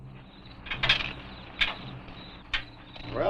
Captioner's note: crickets chirping